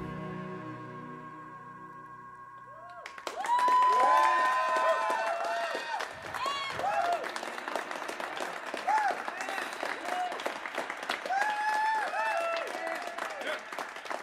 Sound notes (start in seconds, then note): 0.0 last note fades; 2.1 cheers and applause